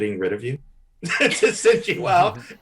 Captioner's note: Desi and Eric laughing